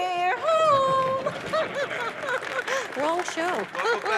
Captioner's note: chuckles